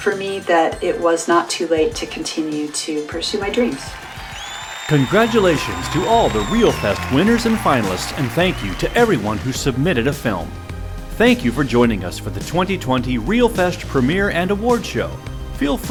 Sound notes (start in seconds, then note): 4.0 crowd applauding; 4.0 crowd cheering